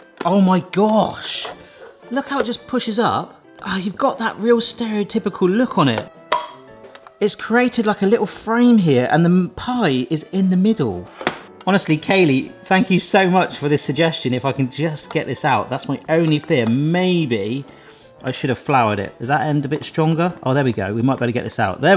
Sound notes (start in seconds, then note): 5.8 lid clicks; 6.2 bright instrumental music; 11.2 pie maker knocks